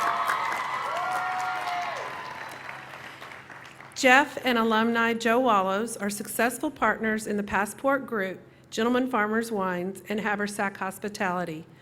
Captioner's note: cheering